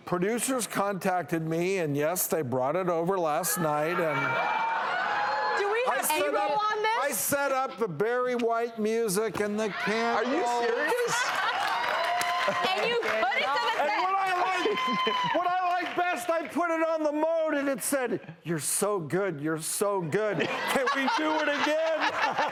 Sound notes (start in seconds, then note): 4.9 audience cheers; 12.3 cheers and applause